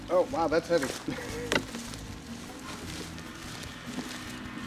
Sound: leaves rustling

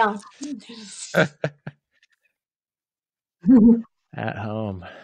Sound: laughs

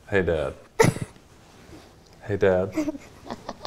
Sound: laughing

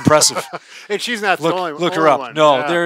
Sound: laughs

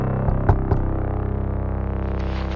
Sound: knock on door

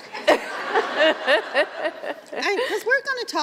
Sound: laughter

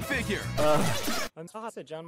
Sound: Chip groans

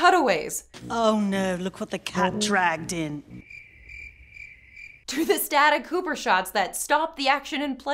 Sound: cricket chirps

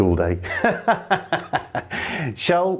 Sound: laughs

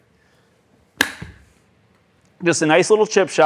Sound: golf club hits ball

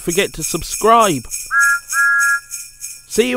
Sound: thomas whistles

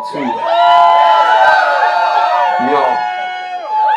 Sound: crowd cheers

